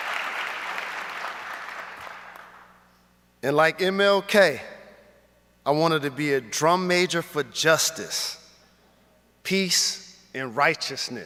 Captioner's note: applause